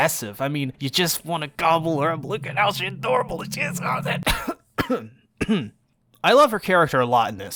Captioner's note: clears throat